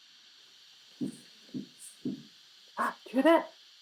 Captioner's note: gentle tapping